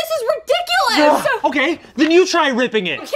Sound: grunts

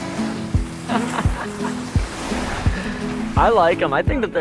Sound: laughing

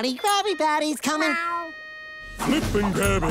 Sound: meowing

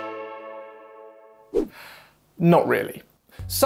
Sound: inhales

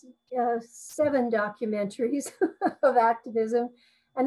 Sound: chuckles

